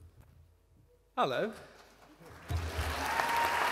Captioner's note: applause